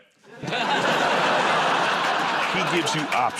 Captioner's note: laughter